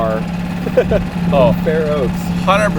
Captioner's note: cameraman laughs